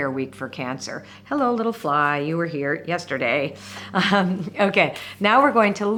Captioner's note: chuckling